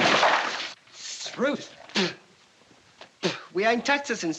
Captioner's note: spits